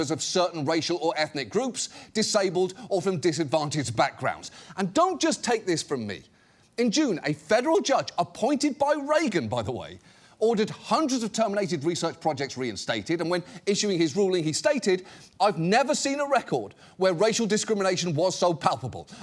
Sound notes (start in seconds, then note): none